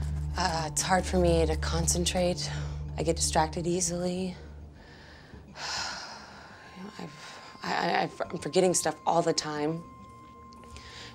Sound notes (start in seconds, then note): 5.5 sighs